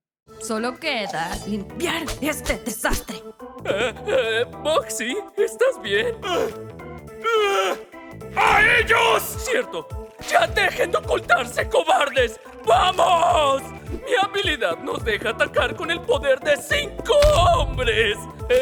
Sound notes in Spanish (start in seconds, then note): 3.4 Arnold tartamudea; 6.0 Bugsy forcejeando